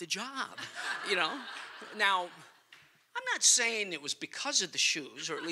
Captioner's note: laughter